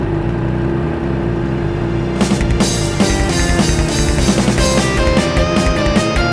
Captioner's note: with the sound of the engine